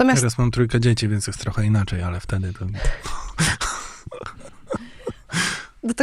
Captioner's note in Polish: śmiech